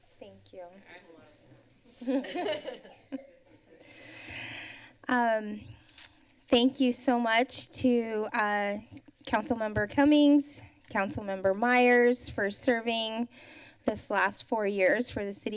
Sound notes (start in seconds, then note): 2.0 laughter